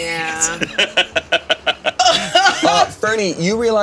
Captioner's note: all laughing